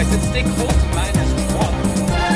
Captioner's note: tires squeal